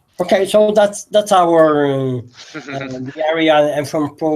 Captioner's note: laughter